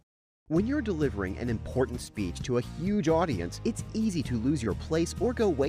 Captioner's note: voiceover